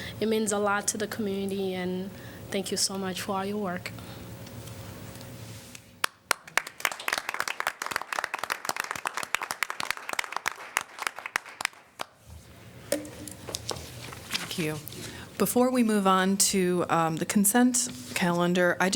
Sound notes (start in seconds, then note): 10.0 applause